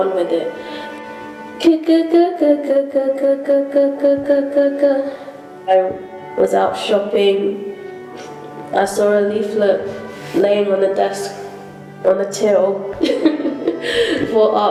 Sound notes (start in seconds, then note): 13.0 laughs